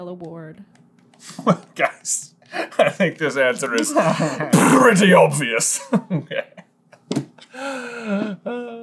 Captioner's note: laughter